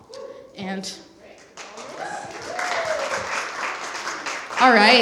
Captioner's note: applause